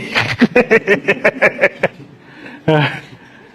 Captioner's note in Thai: เสียงหัวเราะ